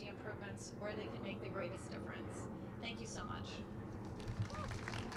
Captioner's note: applause